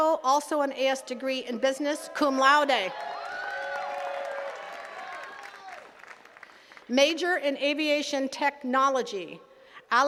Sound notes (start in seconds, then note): 2.6 attendees cheering and clapping